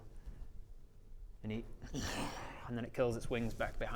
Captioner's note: disappointed snarl